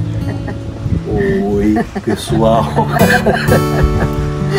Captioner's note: laughs